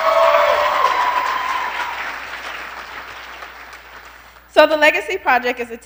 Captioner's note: applause